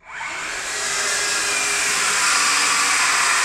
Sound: saws buzzing

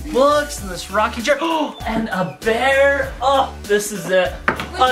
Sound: gasps

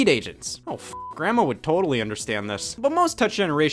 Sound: beep

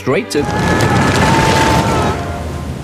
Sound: screaming

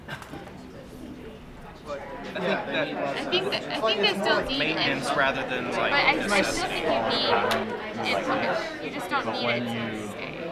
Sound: background conversations

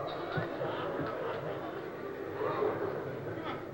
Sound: audience murmurs

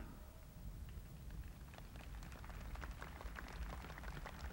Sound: crowd applauding

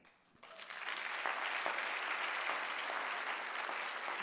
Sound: audience applauding

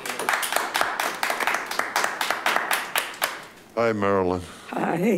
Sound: attendees applaud

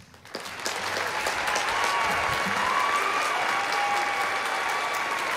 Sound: applause

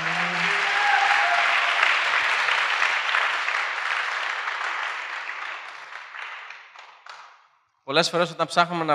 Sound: applause

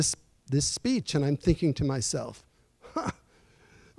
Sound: chuckles

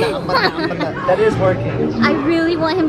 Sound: laughing

